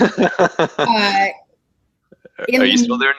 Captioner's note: laugh